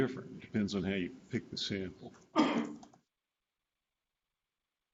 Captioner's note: clears throat